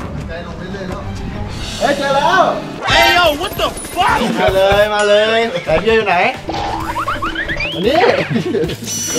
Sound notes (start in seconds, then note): 4.4 chuckles; 6.6 chuckles